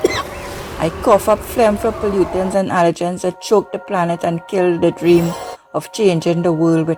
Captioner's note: cough Cough